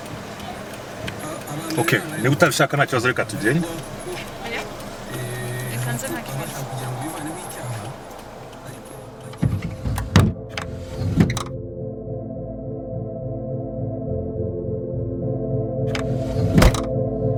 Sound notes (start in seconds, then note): 10.3 car doors open